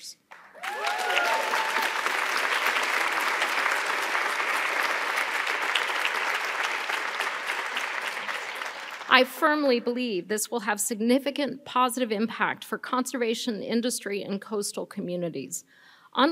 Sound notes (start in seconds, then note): 0.3 audience applauding; 0.4 audience cheering